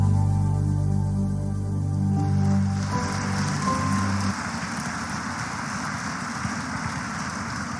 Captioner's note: applause